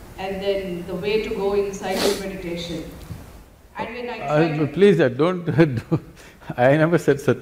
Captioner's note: laughs